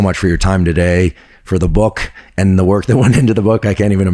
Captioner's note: chuckles